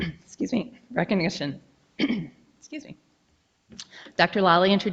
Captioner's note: clears throat